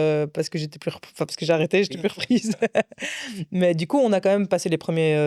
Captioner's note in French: rires